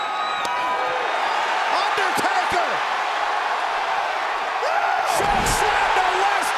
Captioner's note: crowd cheering